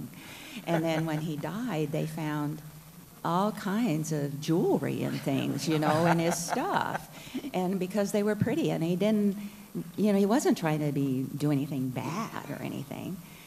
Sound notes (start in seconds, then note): 8.8 laughter